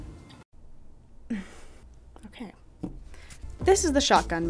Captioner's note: sighs